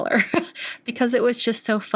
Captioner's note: laughs